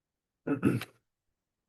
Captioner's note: clears throat